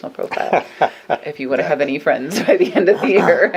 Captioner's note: laughs